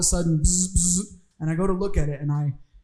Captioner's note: buzzing